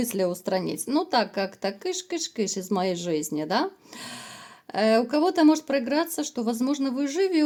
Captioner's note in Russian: тяжело вздыхает